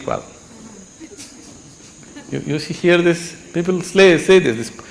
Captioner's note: laughter